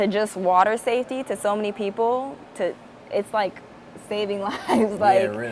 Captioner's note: laughs